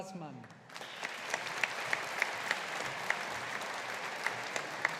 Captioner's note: audience applauding